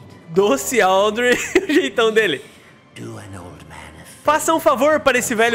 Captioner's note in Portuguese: risos